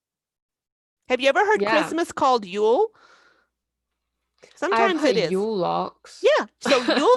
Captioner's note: awkward laugh